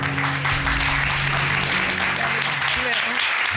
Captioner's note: applause